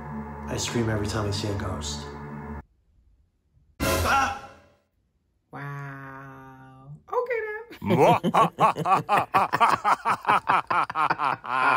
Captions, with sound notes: Ice Cream every time I see a ghost. (beat and startled scream) Wow... ok then! (evil laughs)